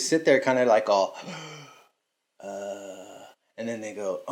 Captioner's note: sighs